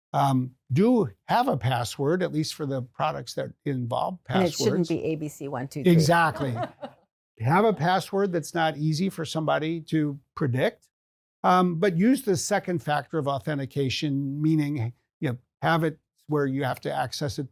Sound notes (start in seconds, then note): 5.9 laughter